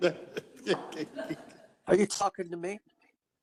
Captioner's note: attendees chuckling